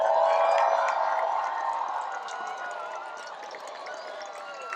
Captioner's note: cheering, applause